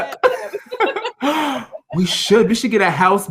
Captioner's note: gasps